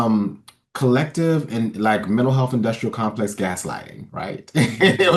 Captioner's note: laughs